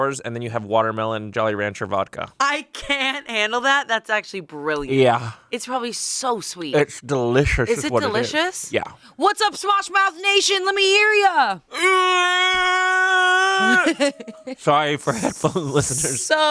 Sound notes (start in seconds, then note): 11.7 yells